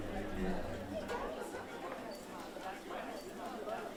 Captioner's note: low chatter